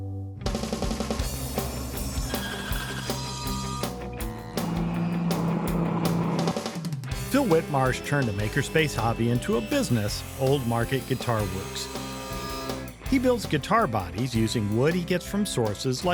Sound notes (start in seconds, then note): 0.4 bright music; 1.6 machines whirring